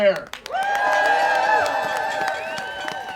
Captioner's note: audience cheering